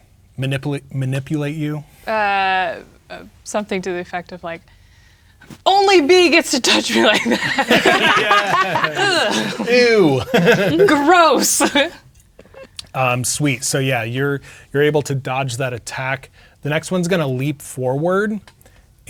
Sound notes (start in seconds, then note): 6.7 players laughing; 10.1 laughing; 12.0 laughing